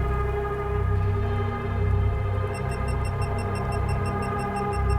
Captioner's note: mellow music; beeping